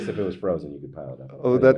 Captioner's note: Neil and Nelson laugh